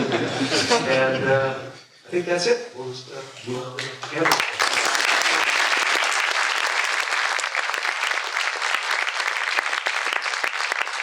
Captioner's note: applause